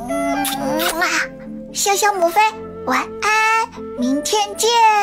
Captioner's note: mwah